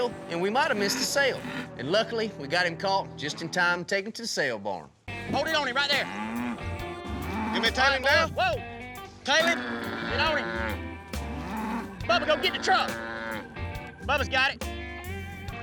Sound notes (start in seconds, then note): 5.2 bull grunting